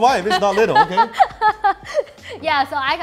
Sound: laughing

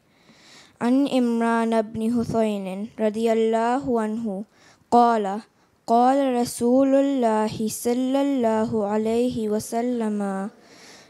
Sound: Arabic

